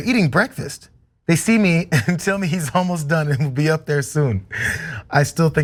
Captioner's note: laugh